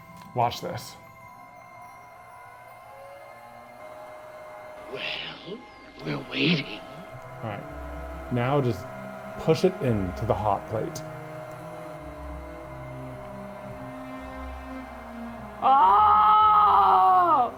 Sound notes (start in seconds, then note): 2.1 heat gun whirring; 2.1 intense music; 12.2 intense music continues